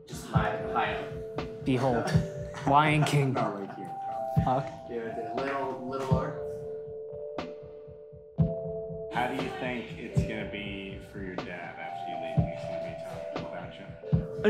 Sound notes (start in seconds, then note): 2.5 chuckling